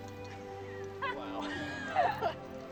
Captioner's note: laughing